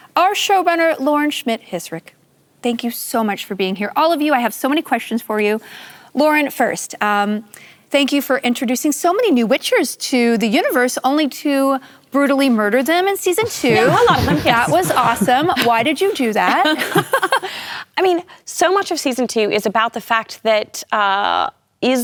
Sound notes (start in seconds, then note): 13.4 laughter